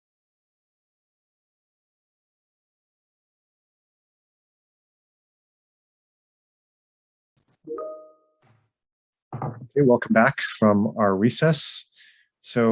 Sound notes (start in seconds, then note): 7.7 computer bleeps; 9.4 gavel bangs